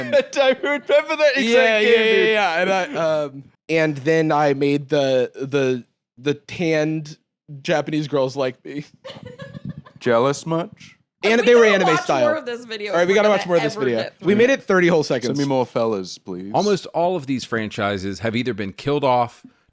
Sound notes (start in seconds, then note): 0.0 laughing; 9.0 laughs